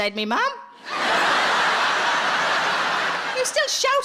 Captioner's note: audience laughs